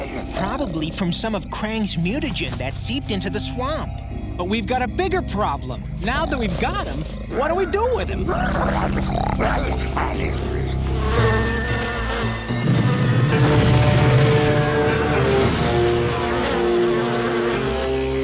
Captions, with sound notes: Probably from some of Krang's mutagen that seeped into the swamp. But we've got a bigger problem. Now that we've got him, what do we do with him? [growling] [buzzing] [buzzing]